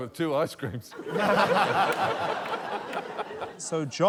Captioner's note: laughter